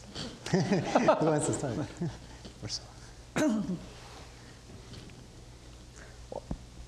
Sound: laughing

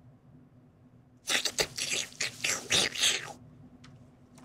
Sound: chewing

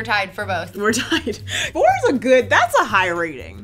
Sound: laughs

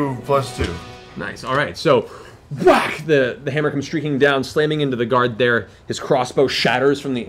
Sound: whack

